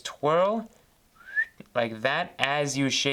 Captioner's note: whistles